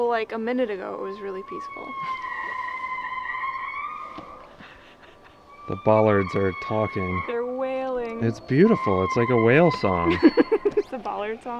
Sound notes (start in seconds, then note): 3.1 locks squeaking; 11.4 laughing